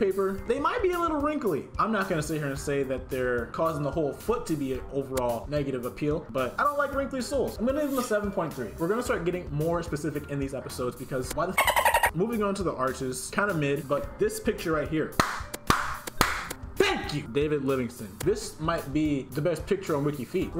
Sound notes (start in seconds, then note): 11.6 dolphin Noise